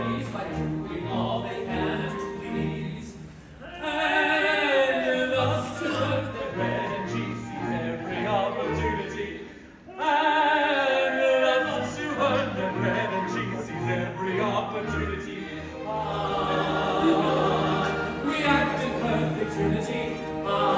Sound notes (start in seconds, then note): none